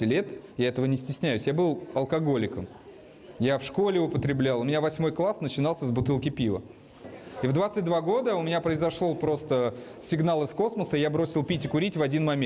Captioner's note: speaking russian